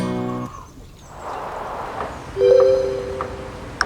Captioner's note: notification